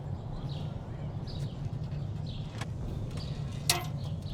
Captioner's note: birds chirping